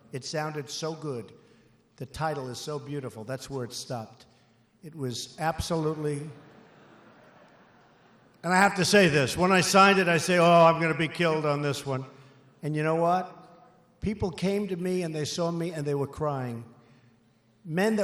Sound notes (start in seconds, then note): 4.7 laughter